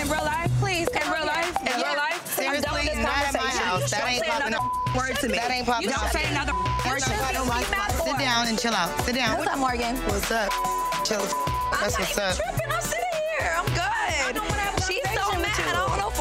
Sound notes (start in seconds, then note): 7.3 beep; 10.4 beep